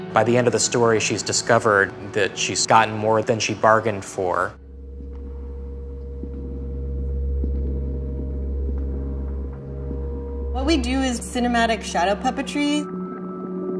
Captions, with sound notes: By the end of the story she's discovered that she's gotten more than she bargained for. [footsteps] What we do is cinematic shadow puppetry.